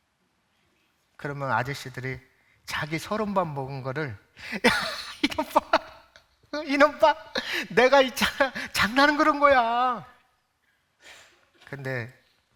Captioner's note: laughing